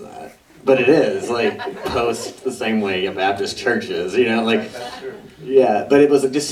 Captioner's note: laughter